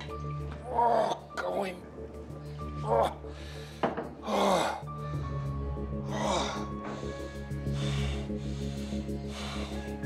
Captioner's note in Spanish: Quejidos